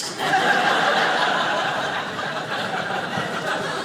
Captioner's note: audience laughing